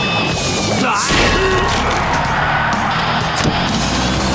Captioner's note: cheering